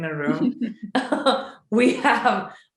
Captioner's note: laughing